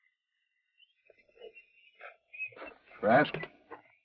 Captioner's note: whistles melodically